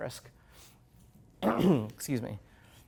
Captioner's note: clearing throat